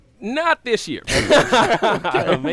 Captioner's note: laughter